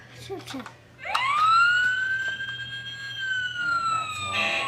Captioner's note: firetruck siren